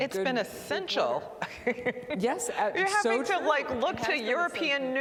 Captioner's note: laughter